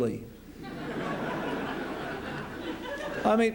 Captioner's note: laughter